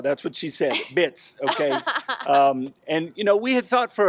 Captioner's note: laughs